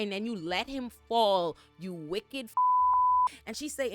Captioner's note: beep